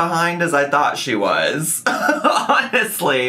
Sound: laughs

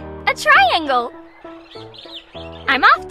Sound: mountain whistling; birds chirping

